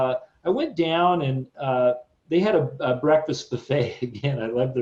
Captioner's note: chuckles